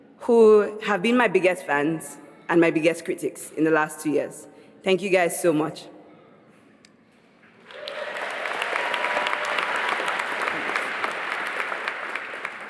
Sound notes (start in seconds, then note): 7.6 applause